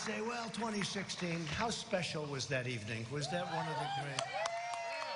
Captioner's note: cheers and applause